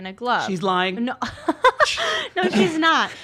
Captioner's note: laughter